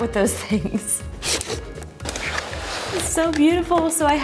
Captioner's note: packaging rustling